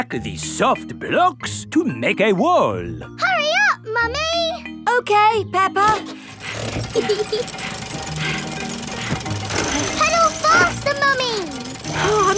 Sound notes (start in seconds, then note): 6.1 mummy pig panting; 6.7 peppa laughing